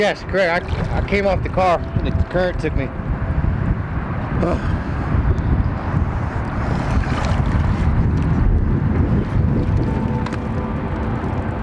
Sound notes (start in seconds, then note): 4.4 breathing heavily; 8.8 gentle music